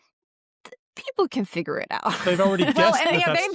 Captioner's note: laughs